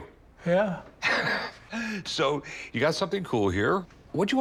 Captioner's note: chuckles